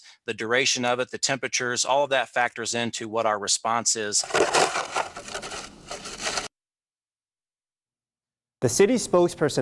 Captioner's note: shoveling